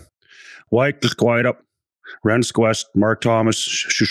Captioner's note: speaking Kenpesq't, the Shuswap language